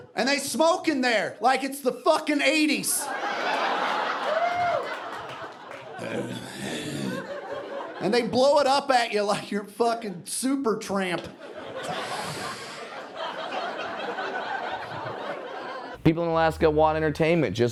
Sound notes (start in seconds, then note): 6.2 clearing throat; 11.8 exhaling